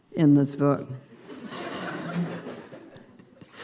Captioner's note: laughter